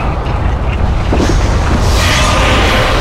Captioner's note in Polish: dźwięk wybuchu